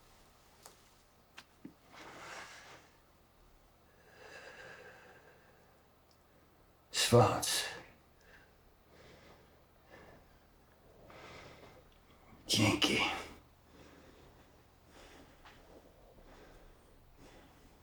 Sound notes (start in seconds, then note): 7.0 man speaking German